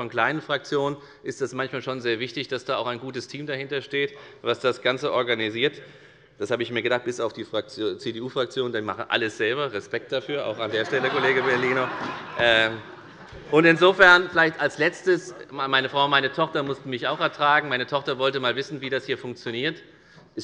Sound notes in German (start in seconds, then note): 12.9 Heiterkeit und Beifall bei der FDP und der SPD